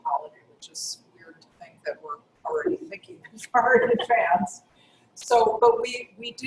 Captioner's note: laugh